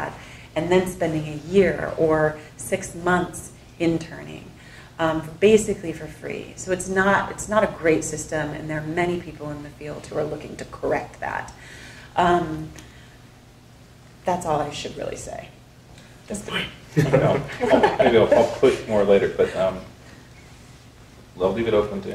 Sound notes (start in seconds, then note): 16.9 people laughing